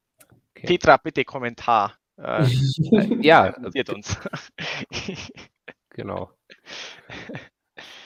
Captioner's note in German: lacht